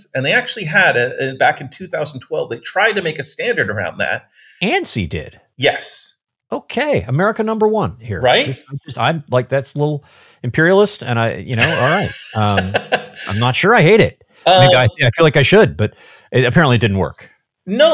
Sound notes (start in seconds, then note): 11.5 laughing